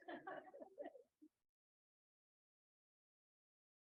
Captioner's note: background giggling